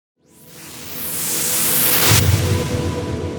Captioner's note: whooshing